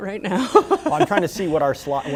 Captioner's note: laughter